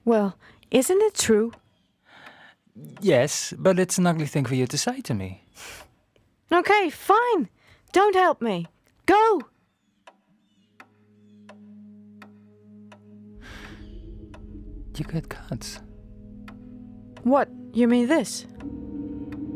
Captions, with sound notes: Well... isn't it true? Yes. But it's an ugly thing for you to say to me. Okay. Fine. Don't help me. Go. [clock ticking] You got cuts. What? You mean this?